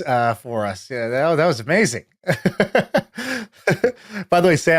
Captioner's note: laughs